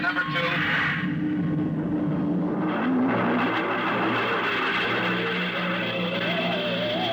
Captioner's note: beeping